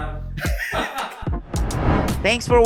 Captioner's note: chuckles